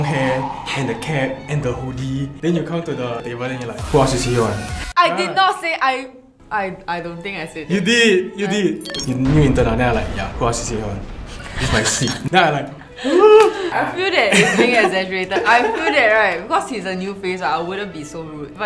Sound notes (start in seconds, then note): 12.9 gasp